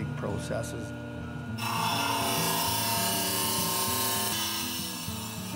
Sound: blade grinding

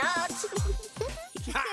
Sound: kids giggling

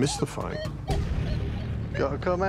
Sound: beeping

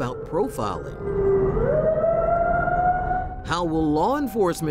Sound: sirens wailing

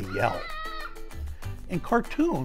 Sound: child yelling

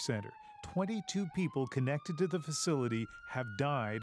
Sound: siren

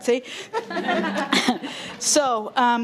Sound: people chuckling

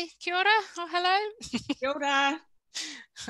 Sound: chuckles

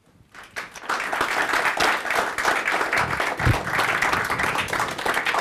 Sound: audience applauding

